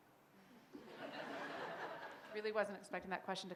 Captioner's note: laughter